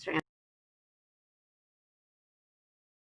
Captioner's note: audio cuts